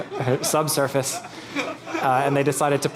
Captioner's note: laughing